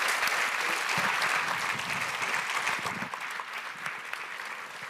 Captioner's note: audience applauding